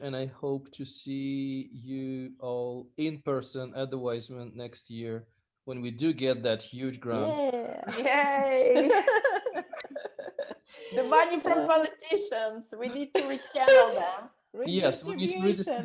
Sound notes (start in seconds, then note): 8.8 exclaims; 8.8 laughs